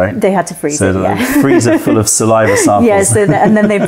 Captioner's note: laughter